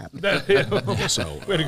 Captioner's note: laughter